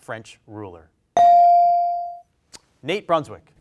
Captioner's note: bell rings